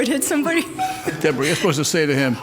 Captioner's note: laughs